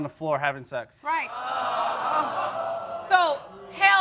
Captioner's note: audience exclaiming